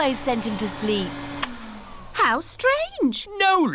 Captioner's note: whirring stops